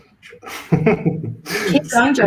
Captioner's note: laughter